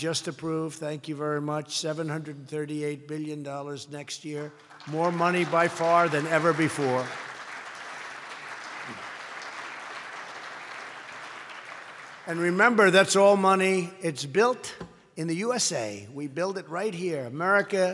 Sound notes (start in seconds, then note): 4.9 applause